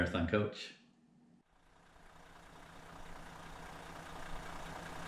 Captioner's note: engine revving